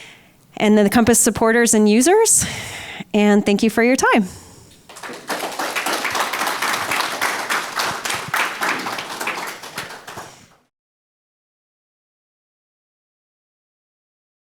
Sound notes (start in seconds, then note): 4.8 audience clapping